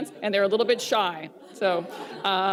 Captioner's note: laughter